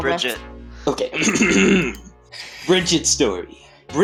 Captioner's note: clears throat